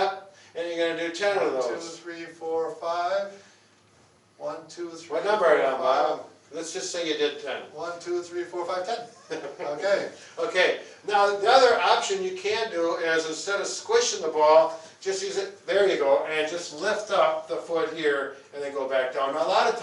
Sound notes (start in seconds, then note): 9.0 laughing